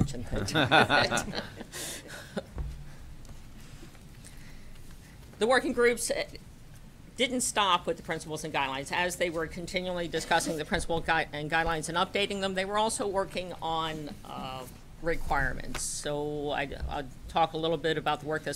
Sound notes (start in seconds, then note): 3.0 laughter